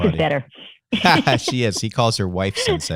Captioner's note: laughter